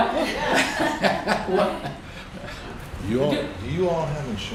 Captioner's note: laughter